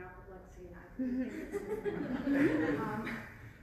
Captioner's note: laughter